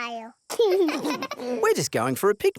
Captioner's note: both laugh